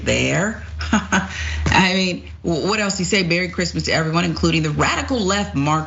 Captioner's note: laugh